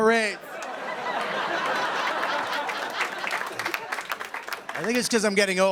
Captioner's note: laughter and applause